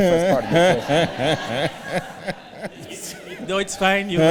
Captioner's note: laughter